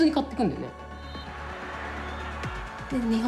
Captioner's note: crowd cheering